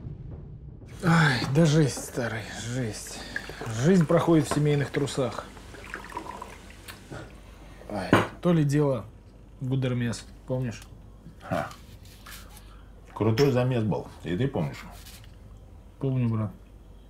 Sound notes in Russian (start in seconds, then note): 6.9 льётся водка; 13.2 чокаются